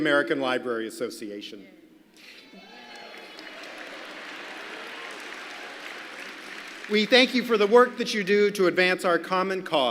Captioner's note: applause